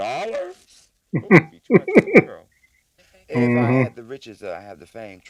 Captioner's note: chuckling